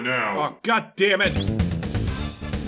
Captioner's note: electrodes charging up